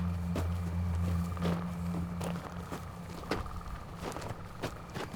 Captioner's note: somber music; footsteps shuffling